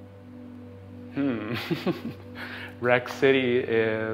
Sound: chuckle

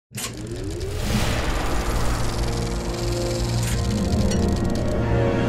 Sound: film reel clicking

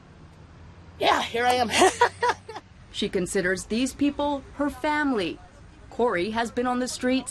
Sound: laughs

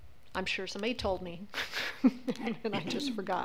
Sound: laughs

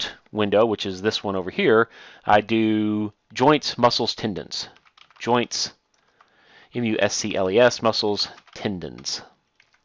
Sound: typing; typing

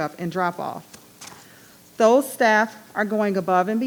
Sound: paper rustling

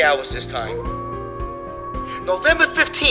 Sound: wolf howls

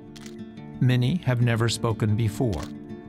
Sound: camera shutter clicking

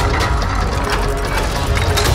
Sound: gears spinning; mechanism grinds

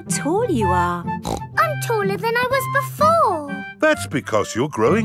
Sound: snorts

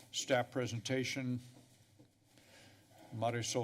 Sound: pause

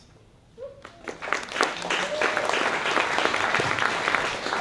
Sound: applause

